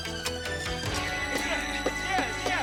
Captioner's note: shovel thudding